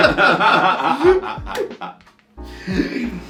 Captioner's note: both laugh